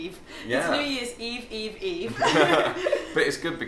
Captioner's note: laughs